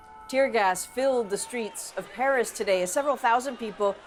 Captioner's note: chanting